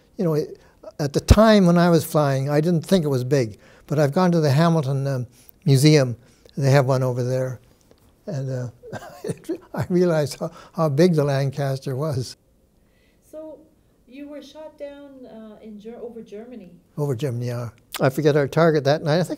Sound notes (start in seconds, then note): 8.8 chuckles